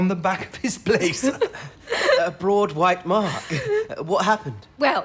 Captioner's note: giggling